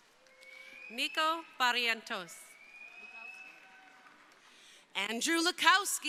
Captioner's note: crowd cheering